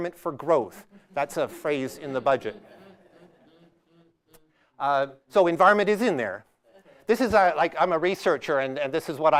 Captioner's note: audience laughs